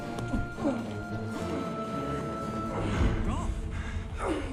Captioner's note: dramatic music; grunting